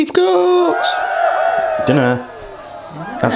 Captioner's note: cheering